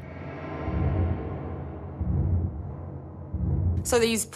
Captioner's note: eerie sounds